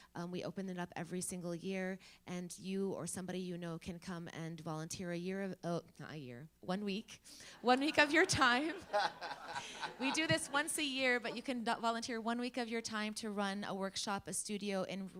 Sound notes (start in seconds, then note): 7.1 laughs; 7.6 audience laughing